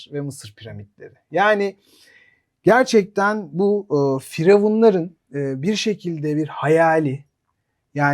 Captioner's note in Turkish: homurdanır